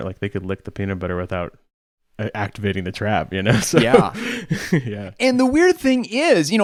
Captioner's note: laughs